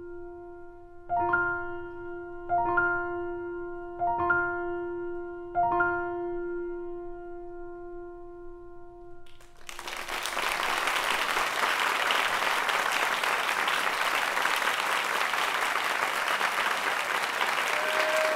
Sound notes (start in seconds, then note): 9.3 cheers and applause